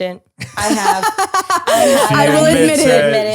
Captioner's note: laughing